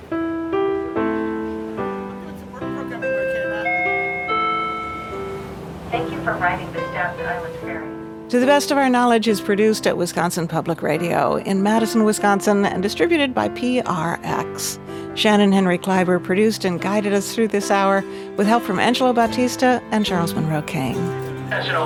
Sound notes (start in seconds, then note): 0.2 gentle piano music; 2.7 announcement dings